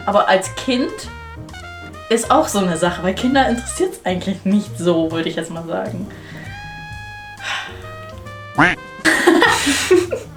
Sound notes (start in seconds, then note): 8.4 beeping; 9.0 laughing